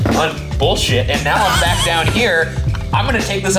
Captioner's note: laughs